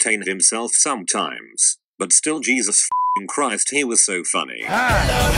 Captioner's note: beeping